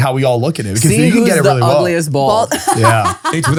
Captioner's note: laughs